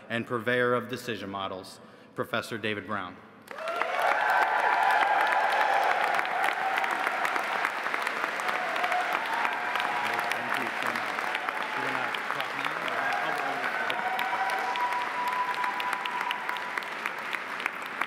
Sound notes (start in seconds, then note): 3.9 audience cheering